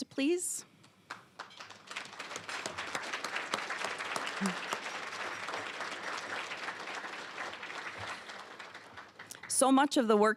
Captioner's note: applause